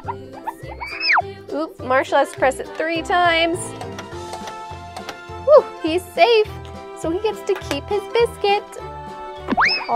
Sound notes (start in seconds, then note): 3.8 button clicking